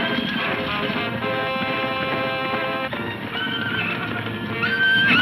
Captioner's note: horse neighing; hooves thundering